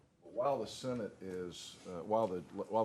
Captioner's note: off microphone